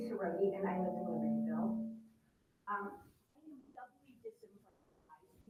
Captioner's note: faintly speaking